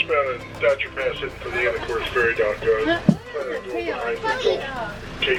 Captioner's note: radio noise